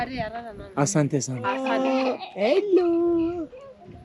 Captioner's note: In Swahili